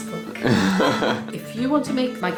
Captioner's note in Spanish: más risa